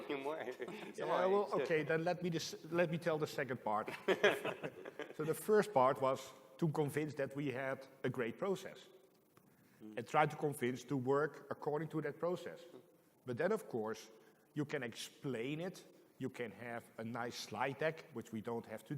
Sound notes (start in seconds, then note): 3.8 laughter